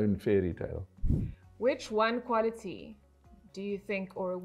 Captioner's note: air whooshing